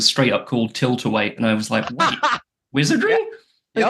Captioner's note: laughs